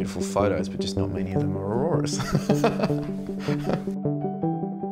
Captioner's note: laughs